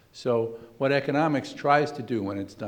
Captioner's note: none